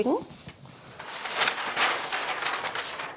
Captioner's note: rustling